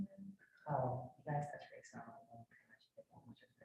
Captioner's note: speaks faintly